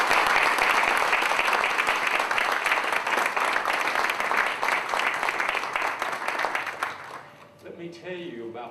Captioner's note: applause